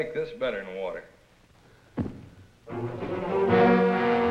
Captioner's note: thud